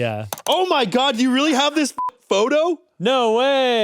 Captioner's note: beep